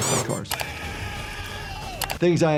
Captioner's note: person screaming